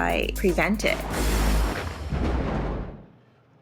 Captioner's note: thunder rumbling